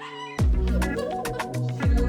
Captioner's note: laughter